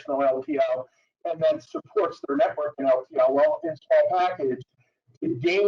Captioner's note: audio breaks